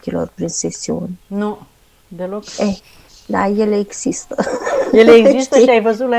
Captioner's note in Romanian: râsete